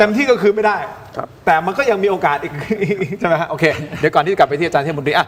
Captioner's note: laughs